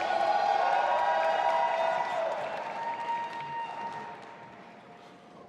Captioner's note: audience applauding and cheering